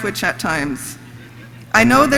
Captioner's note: audience laughs